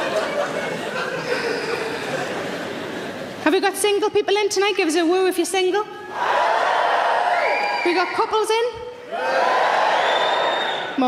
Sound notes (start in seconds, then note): 6.2 audience shouts woo; 9.1 audience cheering